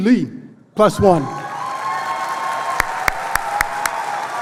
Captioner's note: applause